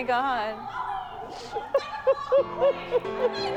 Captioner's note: Holly sniffles, cries